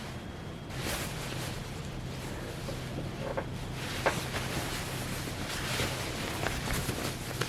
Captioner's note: soft fabric rustling